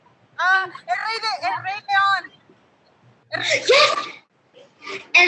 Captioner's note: woman speaking Spanish